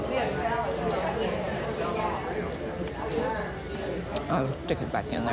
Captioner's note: patrons chattering